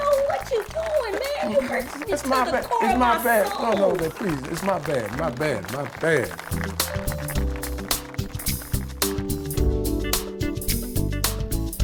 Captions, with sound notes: - You don't know what you doing, man! You hurting me to the core of my soul! - It's my bad. No no, baby, please, it's my bad. My bad, my bad. (audience applause) (upbeat R&B music)